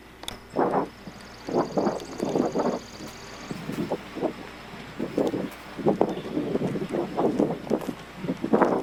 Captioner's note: the wind blows hard